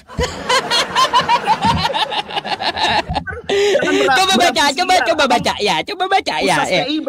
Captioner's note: laughs